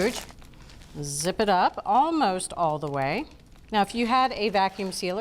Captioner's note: none